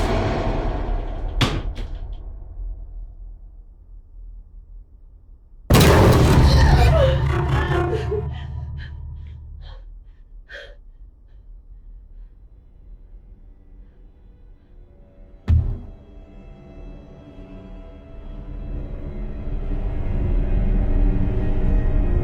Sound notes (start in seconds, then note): 5.7 jump scare music; 5.8 Kat gasps; 19.0 tense horror music